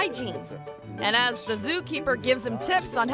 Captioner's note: zookeeper speaking German